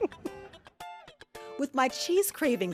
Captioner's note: laughing